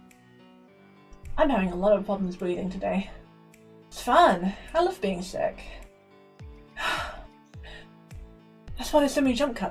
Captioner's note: sarcasm